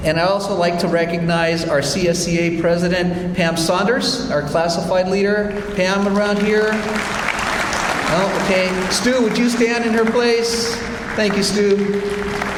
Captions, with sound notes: And I also like to recognize our SCSA president, Pam Sonders, our classified leader. Pam around here? (audience applauds) Okay, Stu, would you stand in her place? Thank you, Stu.